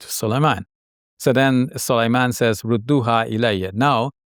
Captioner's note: speaking in foreign language